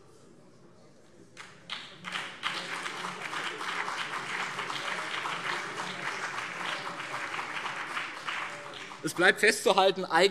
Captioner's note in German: Beifall BÜNDNIS 90/DIE GRÜNEN und CDU